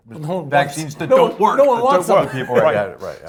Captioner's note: laugh